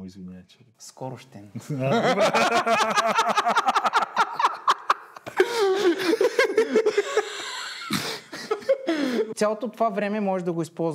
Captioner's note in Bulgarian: смях